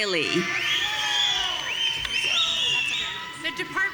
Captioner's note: audience cheering